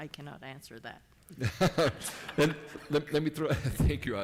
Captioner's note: laughing